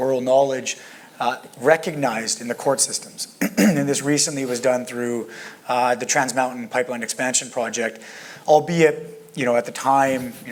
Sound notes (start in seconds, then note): 3.4 cough